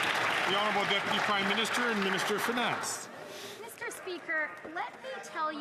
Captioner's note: some Applause